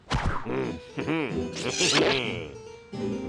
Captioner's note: laughs; grunting